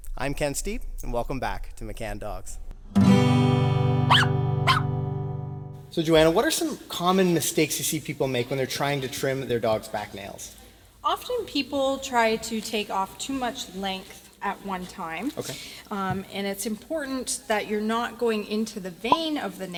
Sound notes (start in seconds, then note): 2.9 guitar strumming; 4.0 dog barking